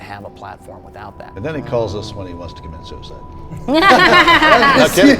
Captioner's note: laughter